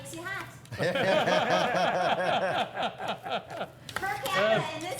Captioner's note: hosts laughing